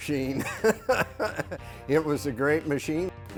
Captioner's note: chuckles